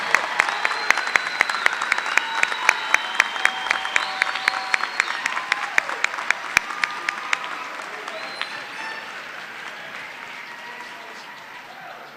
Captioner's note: cheers and applause